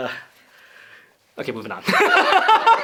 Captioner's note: laughter